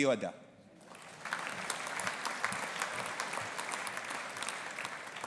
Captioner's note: audience applauding